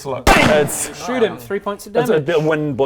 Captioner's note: bam!